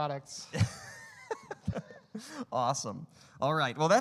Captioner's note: laughing